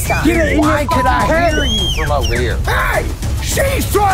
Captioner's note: whistles